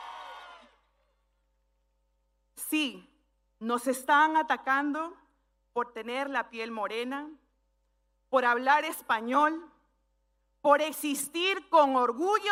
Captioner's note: speaking spanish